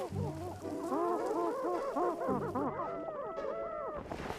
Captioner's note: clucking